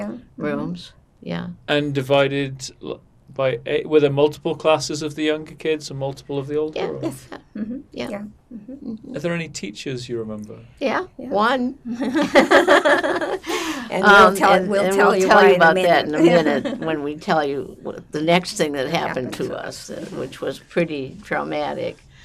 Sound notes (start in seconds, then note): 11.9 laughing